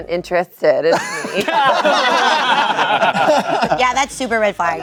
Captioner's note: everyone laughing